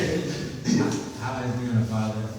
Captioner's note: laughs